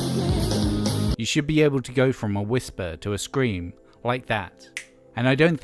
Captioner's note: clicks fingers